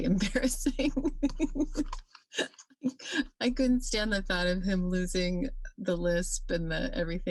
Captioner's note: chuckles